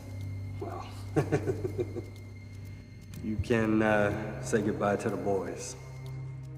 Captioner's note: chuckles